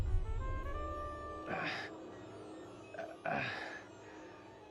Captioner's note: grunts, pants